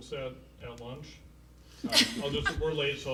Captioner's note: laughing